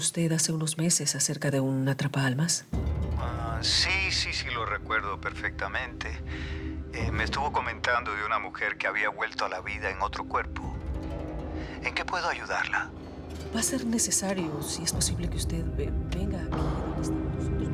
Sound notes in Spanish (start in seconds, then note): none